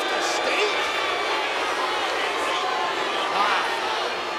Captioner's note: audience jeering